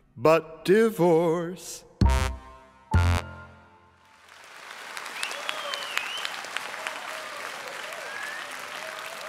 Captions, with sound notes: -- BUT DIVORCE. [applause]